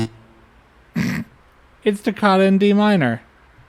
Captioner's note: snort